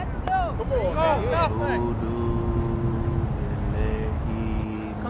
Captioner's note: person humming